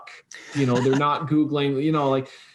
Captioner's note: laughing